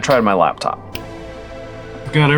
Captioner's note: finger snap